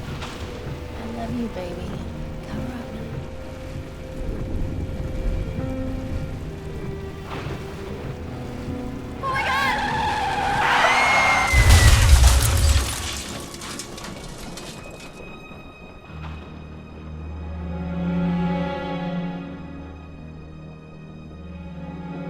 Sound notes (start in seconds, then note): 9.2 screams; 9.3 brakes screech; 11.6 crashes